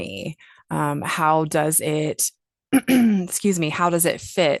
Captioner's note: clears throat